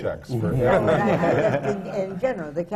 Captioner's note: laughter